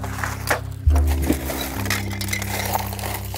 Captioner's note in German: Scharren, Klimpern